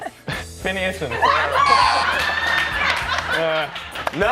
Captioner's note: laughing